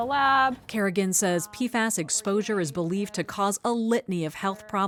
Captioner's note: voice-over